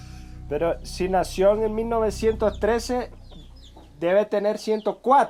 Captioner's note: speaking foreign language